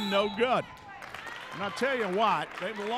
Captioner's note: referee whistling; clapping